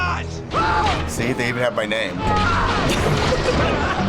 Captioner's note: screaming; giggles